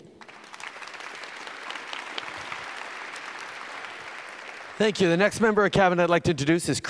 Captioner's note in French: Applaudissements